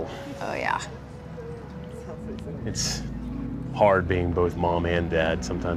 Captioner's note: none